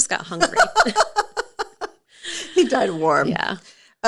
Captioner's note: laughing